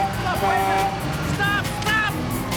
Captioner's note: horn honking